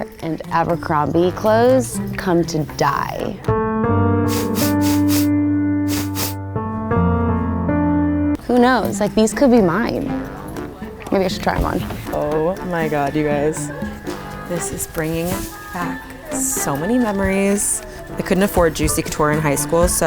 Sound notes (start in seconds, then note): 3.3 sad music; 5.9 sniffling